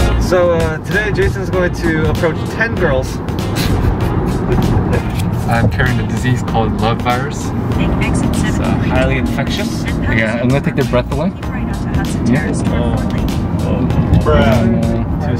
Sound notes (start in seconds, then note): 7.9 GPS reciting directions